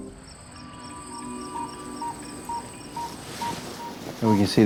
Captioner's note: cicadas chirping; cardiac monitor beeping